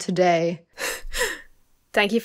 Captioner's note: chuckles